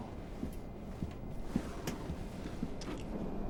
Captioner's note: footstep